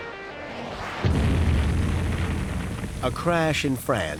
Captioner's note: crashing sound